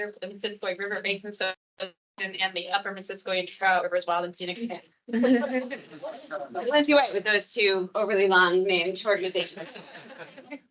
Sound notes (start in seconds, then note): 5.1 attendees laughing